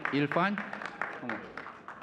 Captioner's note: audience cheering and clapping; people chattering